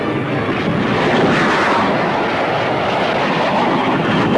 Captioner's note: missile whooshes; explosion booming